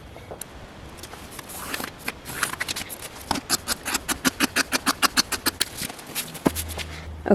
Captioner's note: more sped-up pencil and scissors sounds